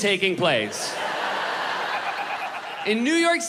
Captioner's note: crowd laughs